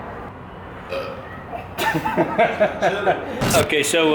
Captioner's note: burps